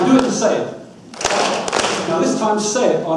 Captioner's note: audience claps